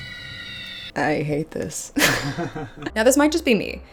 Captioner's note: laughs